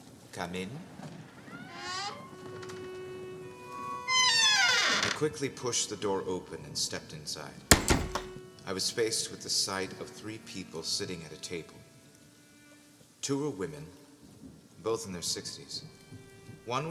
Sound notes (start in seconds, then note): 1.8 door squeaks open, quaint strings music plays; 7.7 loud thud